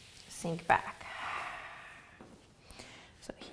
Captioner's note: exhaling